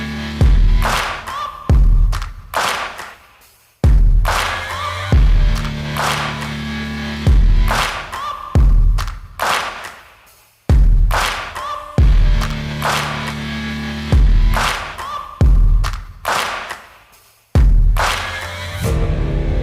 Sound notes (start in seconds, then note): 9.4 Tepuk tangan; 14.7 Tepuk tangan